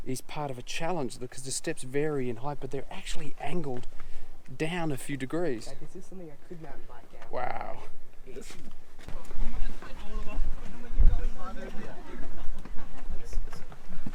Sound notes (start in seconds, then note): 8.9 passerby talking